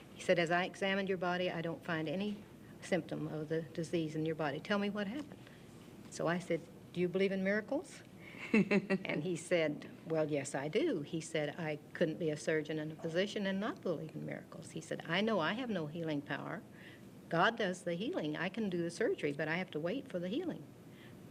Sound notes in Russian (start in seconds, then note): 8.4 Смех